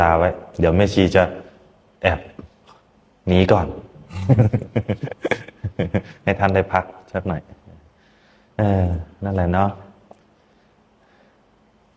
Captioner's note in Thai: เสียงหัวเราะ